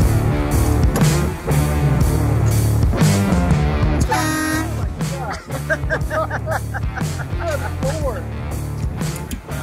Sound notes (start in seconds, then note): 4.0 honking; 6.1 laughs